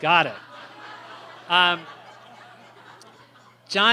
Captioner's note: laughter